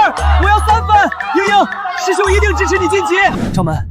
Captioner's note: sobs